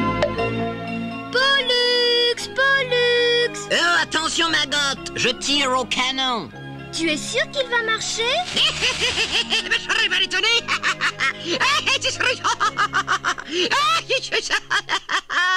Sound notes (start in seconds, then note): 8.5 laughing wildly; 13.6 continues laughing hysterically